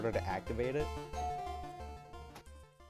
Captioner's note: doorbell ringing